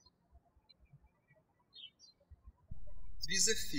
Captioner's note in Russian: птички щебечут